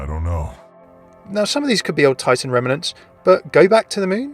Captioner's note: voiceover